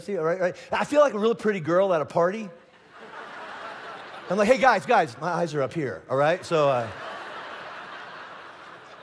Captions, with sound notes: I feel like a real pretty girl at a party. (congregation laughing) I'm like, hey guys, guys, my eyes are up here, all right, so.